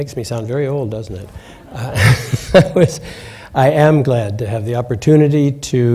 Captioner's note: laughter